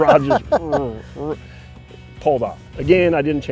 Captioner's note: laughing